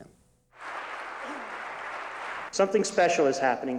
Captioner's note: applause